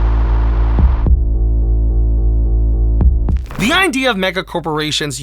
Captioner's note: static